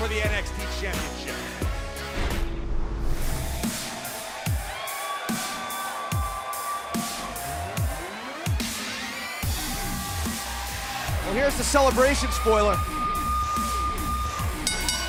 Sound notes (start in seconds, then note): 7.4 cheers & applause